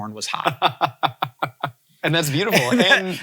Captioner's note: laughing